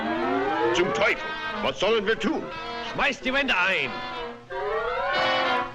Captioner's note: light dramatic music; all speaking foreign language